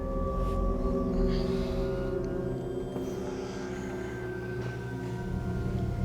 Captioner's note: Candace Re-Enactor sighing